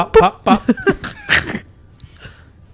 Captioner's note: laughs